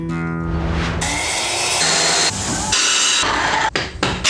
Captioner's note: construction sounds